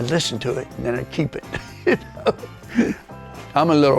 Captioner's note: laughing